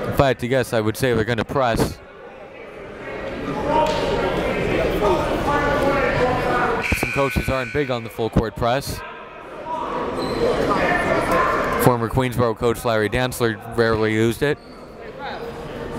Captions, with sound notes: if I had to guess, I would say we're gonna press. (buzzer dings) Some coaches start big on the full-court press. Former Queensborough coach Larry Danzler rarely used it.